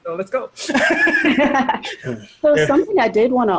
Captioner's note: all laughing